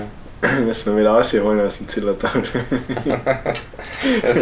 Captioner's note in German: Lachen